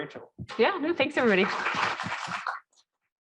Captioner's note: applause